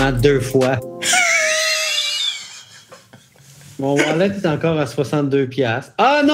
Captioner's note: laughs